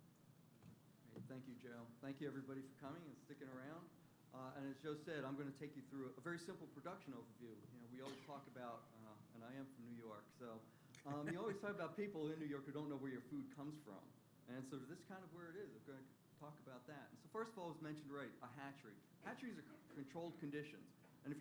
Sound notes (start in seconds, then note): 11.0 laughter